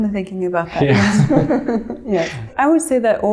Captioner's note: chuckles